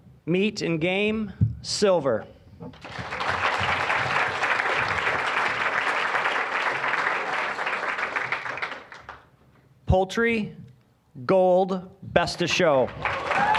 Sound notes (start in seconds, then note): 2.7 applause; 12.8 applause, cheering